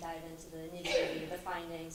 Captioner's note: cough